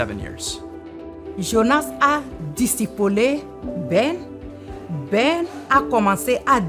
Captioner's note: speaking in French language